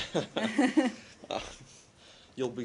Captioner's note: laughter